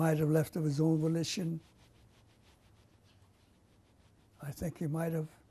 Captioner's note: pauses for 3 seconds